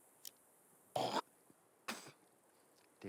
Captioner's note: man hocking